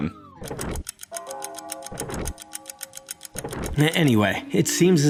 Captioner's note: several clocks ticking